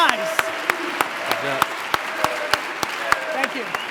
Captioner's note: crowd